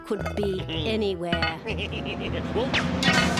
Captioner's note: laughs wickedly